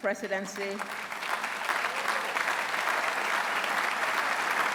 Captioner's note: applause